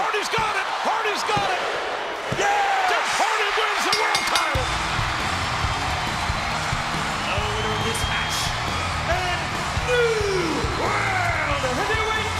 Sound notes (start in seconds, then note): 3.8 bell rings